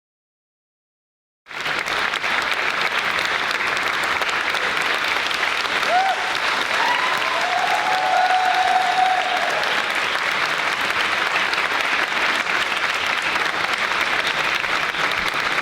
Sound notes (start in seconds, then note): 1.6 audience applauding; 7.0 cheering